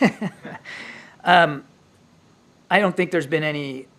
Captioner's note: laughs